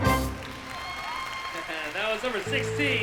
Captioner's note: applause